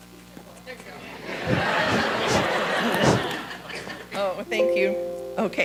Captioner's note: audience laughing